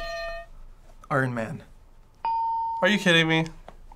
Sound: hitting bell; ding

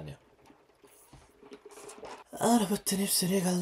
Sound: drinking

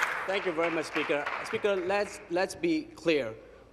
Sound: applause

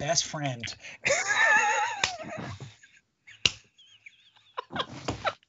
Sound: laughing

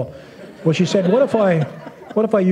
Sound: laughter

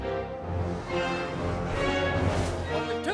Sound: adventure music; car engines revving

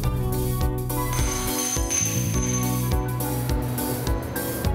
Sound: blues music; glass shatters

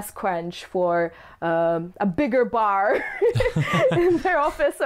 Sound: laughs

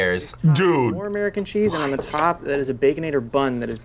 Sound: whispers

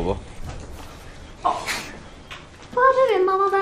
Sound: groaning

